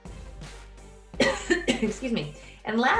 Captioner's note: coughs